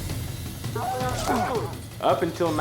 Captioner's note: steer lowing